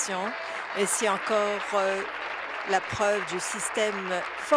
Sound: applause

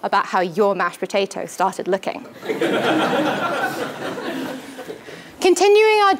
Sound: laugh

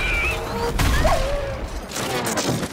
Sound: blast followed by Pig oinking in pain; Blast followed by Wolf in pain

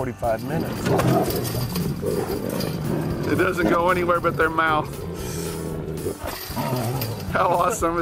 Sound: growling

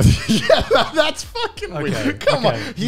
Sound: laughs

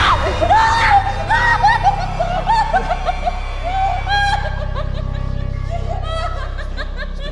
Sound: nervous giggling

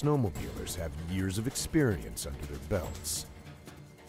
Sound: voiceover

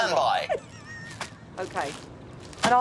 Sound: laughing

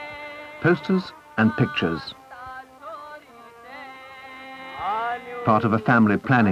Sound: singing; English accent

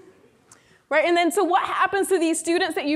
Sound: none

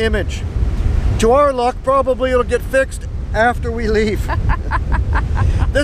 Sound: laughter

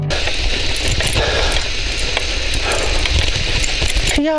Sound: cycle Riding Sound

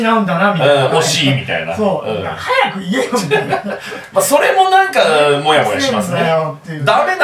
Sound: laughs

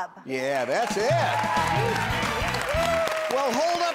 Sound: cheering

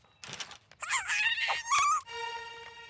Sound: grunting

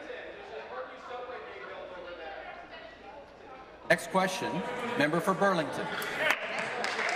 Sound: applause

